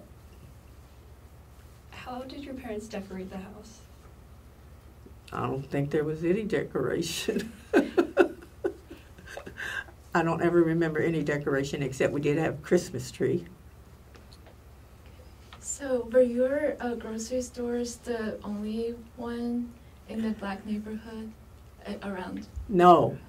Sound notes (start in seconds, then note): 7.3 laugh